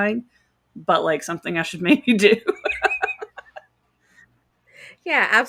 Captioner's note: laughs